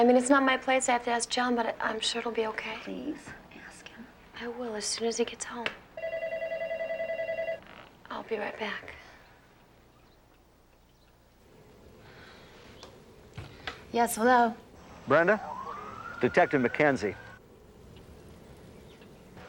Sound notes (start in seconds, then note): 8.3 phone ringing